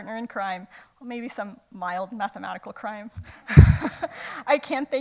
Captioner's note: laughs